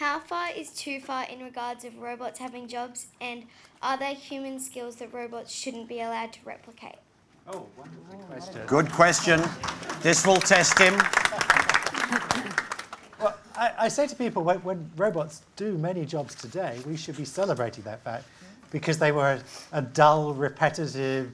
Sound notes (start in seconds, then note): 8.6 applause